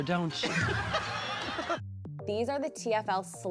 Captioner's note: RuPaul laughing